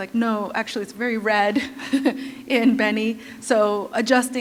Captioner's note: chuckle